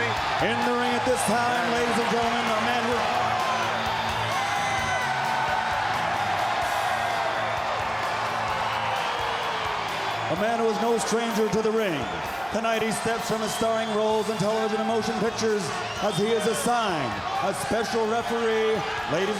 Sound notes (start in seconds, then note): 4.4 crowd cheering